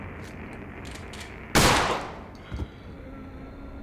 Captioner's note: gun firing